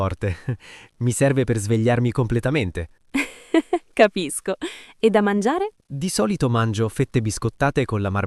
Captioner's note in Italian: risate